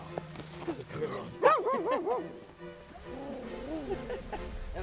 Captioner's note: dog howling; laughing